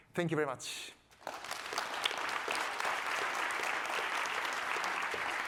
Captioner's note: audience applauding